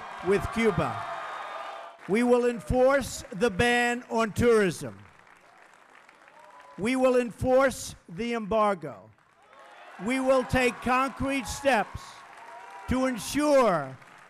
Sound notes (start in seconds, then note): 0.0 cheers, applause; 8.9 applause